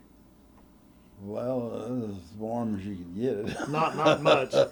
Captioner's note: laughter